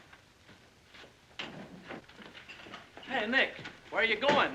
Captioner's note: door opens